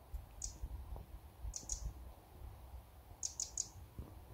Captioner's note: bird song